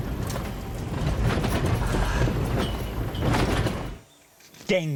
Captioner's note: car rattling